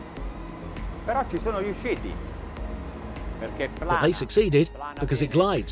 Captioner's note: speaking in foreign language